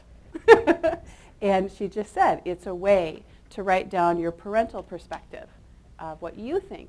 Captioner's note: laughs